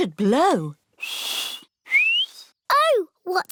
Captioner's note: whistles